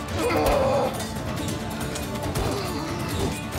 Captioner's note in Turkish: Kılıç sesleri